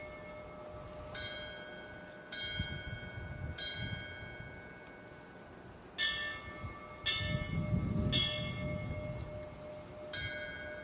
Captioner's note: bell tolling